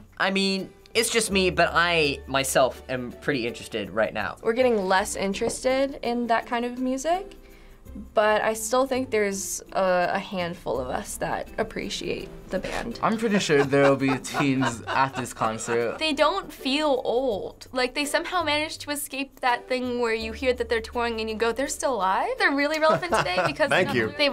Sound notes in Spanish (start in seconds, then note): 13.1 risas; 22.7 risas